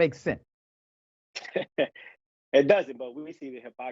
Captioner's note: laugh